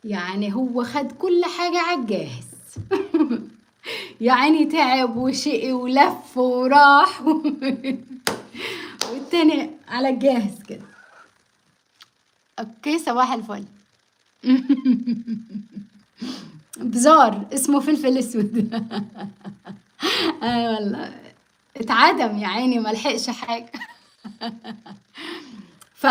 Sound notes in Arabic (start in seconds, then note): 14.4 ضحك; 16.2 أصوات شخير; 25.3 ضحك